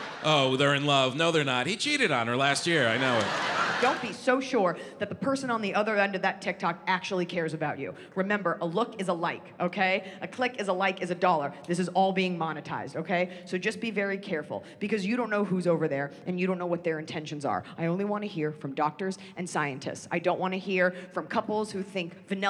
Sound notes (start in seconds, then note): 0.0 audience laughs